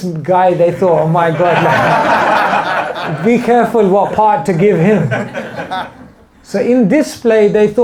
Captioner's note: laughter